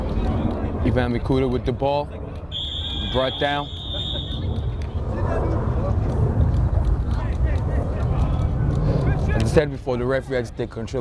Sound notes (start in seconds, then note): 2.5 whistle